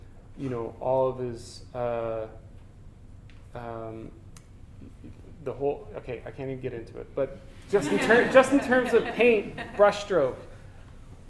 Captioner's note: audience: Laughter